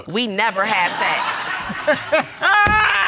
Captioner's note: judge lake laughing